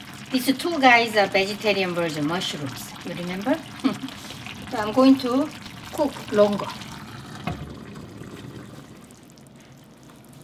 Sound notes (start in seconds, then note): 3.8 laughs; 7.2 simmers gently